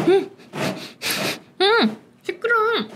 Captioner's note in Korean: 고양이 스크래쳐 긁는 소리